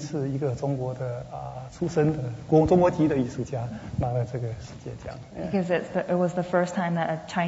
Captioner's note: speaking Mandarin